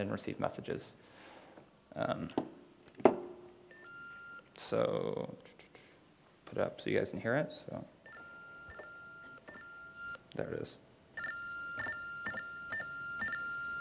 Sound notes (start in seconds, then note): 8.1 tones beeping and crackling